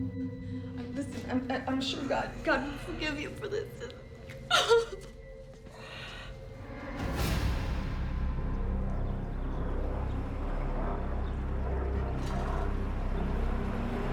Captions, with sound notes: LISTEN, I-I'M SURE GOD-- GOD WILL FORGIVE YOU FOR THIS. ( crying )